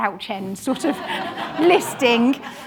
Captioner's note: audience laughing; laughs